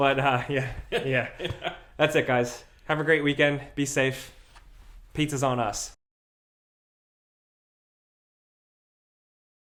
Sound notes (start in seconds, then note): 0.6 laughs